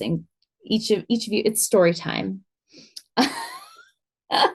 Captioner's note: laughs